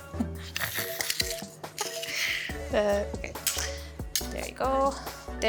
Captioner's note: garlic press crushing